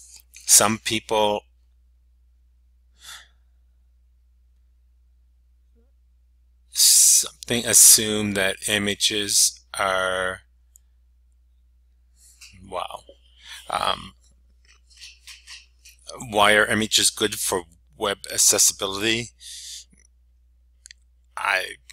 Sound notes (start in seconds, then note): 3.0 sigh